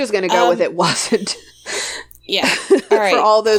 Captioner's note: laughs